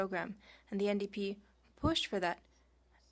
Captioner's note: speaking French